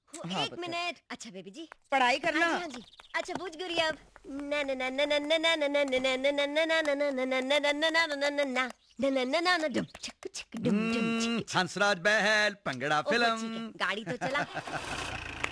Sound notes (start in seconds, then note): 4.2 humming